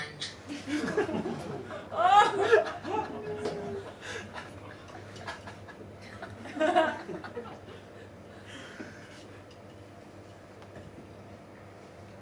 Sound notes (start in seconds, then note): 0.6 audience laughs